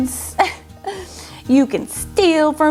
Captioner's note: laughs